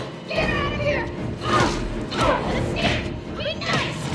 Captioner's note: punching